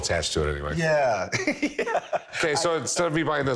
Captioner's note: laughs